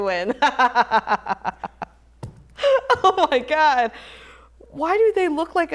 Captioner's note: laughs